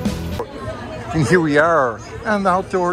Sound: crowd murmuring

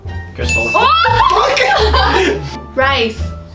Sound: squeals with joy

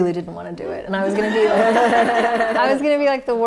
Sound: laughter

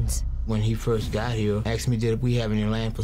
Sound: voiceover

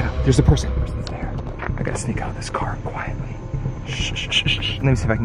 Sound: shushes

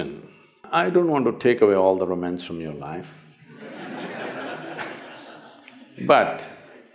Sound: laughter

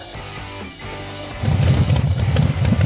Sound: engine starts

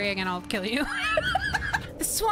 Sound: laughter

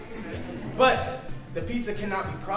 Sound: audience laughing

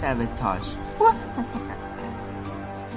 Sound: evil Laughing

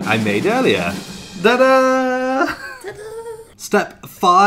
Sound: drumroll; laughter

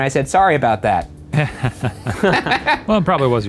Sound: all laugh

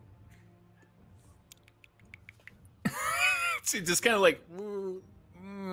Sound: squirrel sounds

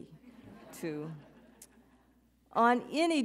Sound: audience chuckles

